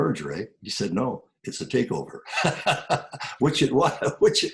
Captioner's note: laughs